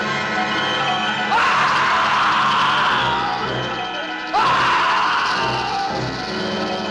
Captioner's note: screams